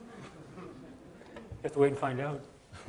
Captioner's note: audience chuckling